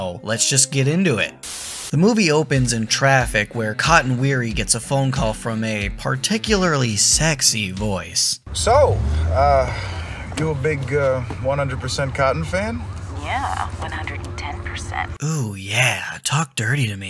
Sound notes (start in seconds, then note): 12.8 sexy woman voice